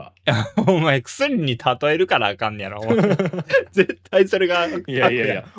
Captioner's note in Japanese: 笑い